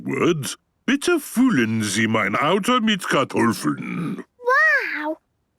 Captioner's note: speaking German